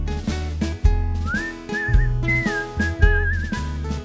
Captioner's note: whistle